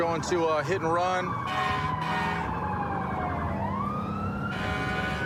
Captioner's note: emt sirens blaring